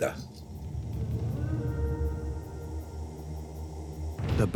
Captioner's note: horn rings out